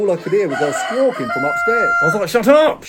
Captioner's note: chicken squawking